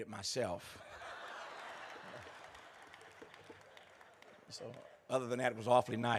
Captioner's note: laughter